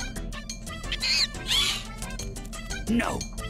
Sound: Screech

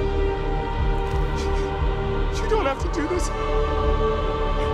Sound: crying

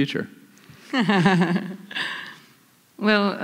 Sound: laughing

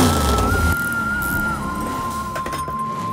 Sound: clickity clickity; clunk

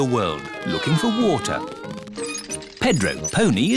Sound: all mimicking aeroplane sounds

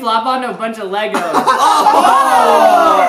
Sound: laughter

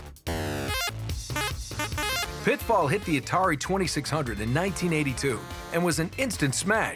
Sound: arcade sounds

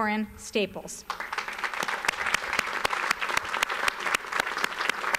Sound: audience applauds

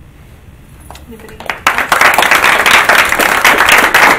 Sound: applauding

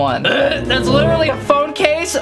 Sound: hacks

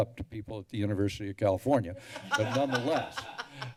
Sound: laughter

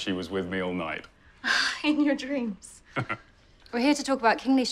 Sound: scoffs

